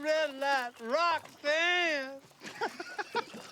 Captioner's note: laughter